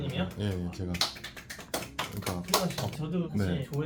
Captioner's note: applause